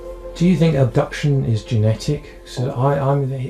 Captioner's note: voiceover